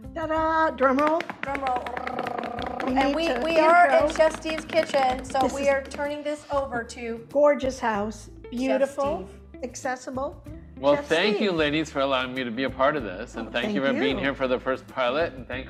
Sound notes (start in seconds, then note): 1.2 mimicking drum roll